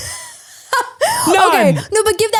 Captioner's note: laughs